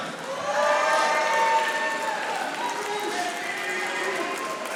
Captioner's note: audience applauding